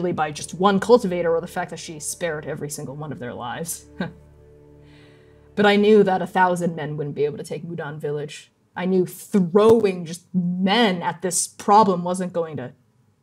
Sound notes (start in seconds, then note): 3.9 mirthless laugh